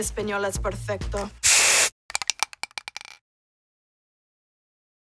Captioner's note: spray paint sprays